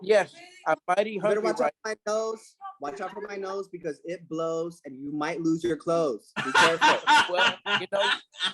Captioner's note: laughter